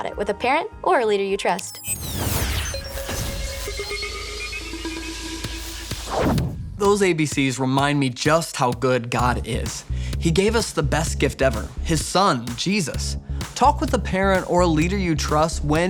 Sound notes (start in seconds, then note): 1.9 electricity buzzing